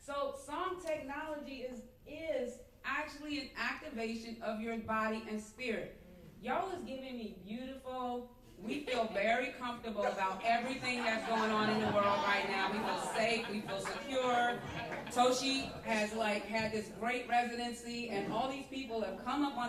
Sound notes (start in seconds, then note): 12.7 laughter